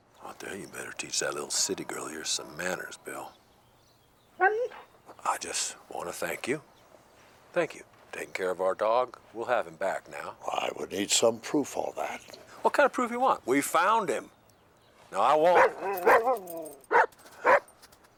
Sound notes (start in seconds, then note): 4.4 Buck barks; 15.5 Buck barking